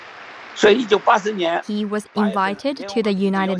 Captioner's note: speaking Mandarin